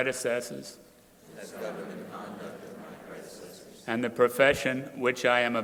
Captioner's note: crowd repeating